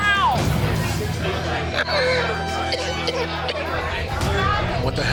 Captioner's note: coughing